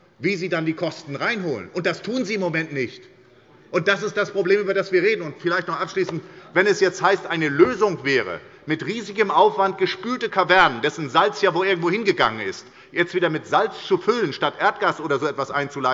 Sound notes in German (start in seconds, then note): none